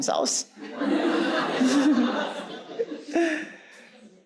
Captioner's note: audience laughing